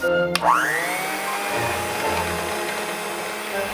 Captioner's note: blender whirring